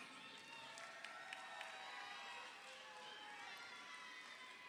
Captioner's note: crowd cheering